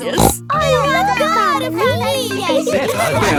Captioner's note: snorts